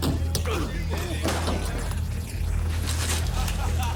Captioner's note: grunting; spectator laughing